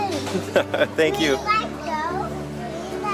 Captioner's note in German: lacht